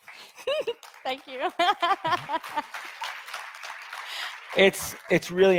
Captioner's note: audience applauds